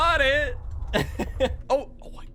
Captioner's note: laughs